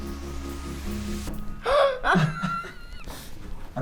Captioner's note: gasps and laughs